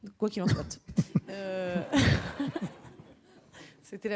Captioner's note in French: rires